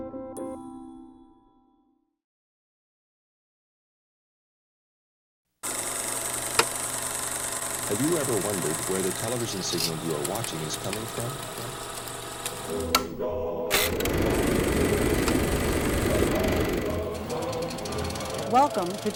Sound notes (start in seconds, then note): 6.2 projector clicking; 13.6 projector clicking